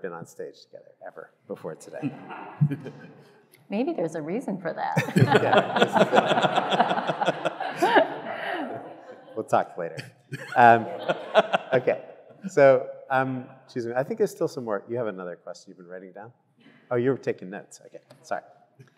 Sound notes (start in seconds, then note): 5.0 everyone laughing